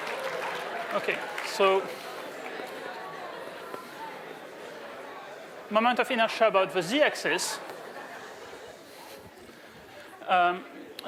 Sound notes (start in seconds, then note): 0.0 applause